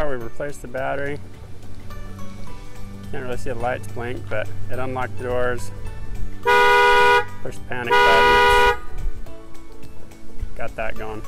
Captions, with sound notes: We replaced the battery. Can't really see the lights blink, but it unlocked the doors. (car alarm beeping) Push the panic button, got that going.